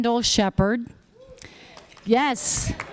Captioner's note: applause